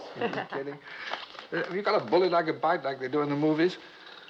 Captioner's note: laughs